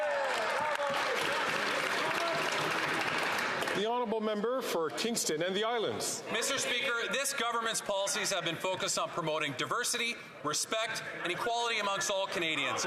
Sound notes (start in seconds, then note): 3.8 some Applause